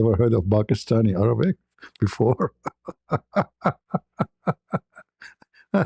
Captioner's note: ketawa